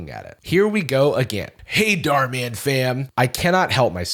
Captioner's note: Dhar Mann voice